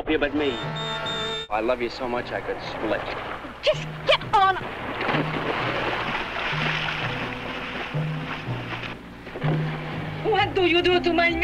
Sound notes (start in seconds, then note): 4.6 water splashing